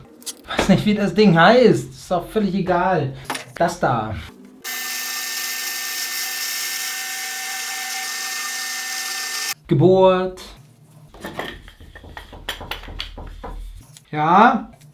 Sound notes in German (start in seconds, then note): 11.1 Klopf, klopf, klopf